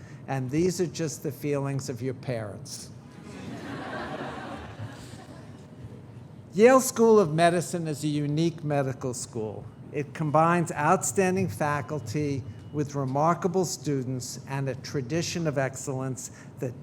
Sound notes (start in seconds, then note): 3.2 audience laughing